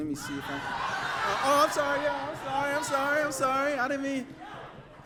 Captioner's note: outraged crowd noises